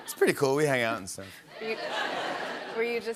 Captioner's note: laughter